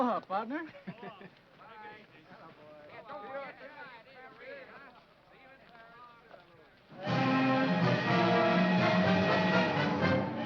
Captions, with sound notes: - Aloha, partner! (men chattering) (triumphant music)